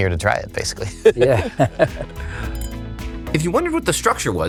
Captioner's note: laughing